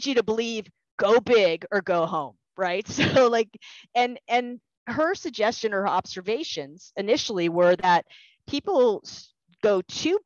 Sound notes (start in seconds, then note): 2.8 laughter